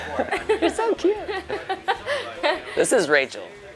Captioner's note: imitating woman's voice